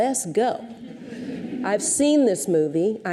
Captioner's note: audience chuckles